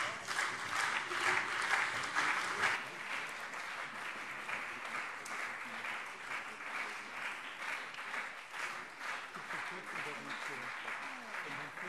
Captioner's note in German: Beifall SPD und CDU